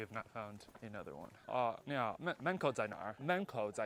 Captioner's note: Mandarin